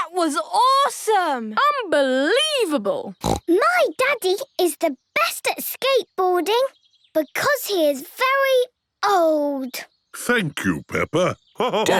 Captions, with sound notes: - That was awesome! - Unbelievable! (snorts) - My Daddy is the best at skateboarding because he is very old! - Thank you, Peppa!